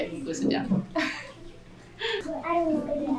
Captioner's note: adult laughter